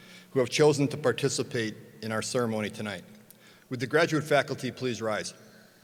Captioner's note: none